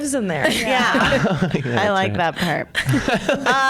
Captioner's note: laughs